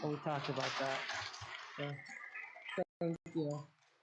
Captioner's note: audience clapping